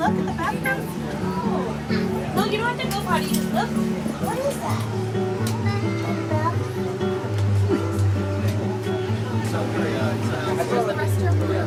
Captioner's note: indistinct conversations